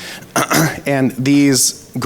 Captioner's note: clears throat